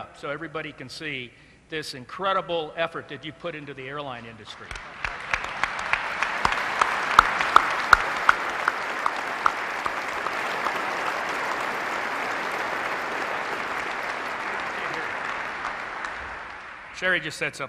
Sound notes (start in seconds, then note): 8.2 applause